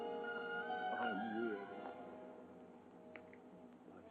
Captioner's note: Baron speaking, muffled